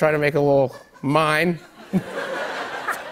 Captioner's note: laughter